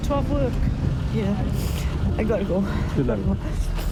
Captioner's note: sniffles